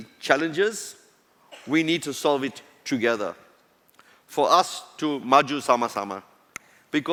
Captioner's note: non-english